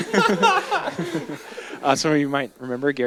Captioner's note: audience chuckles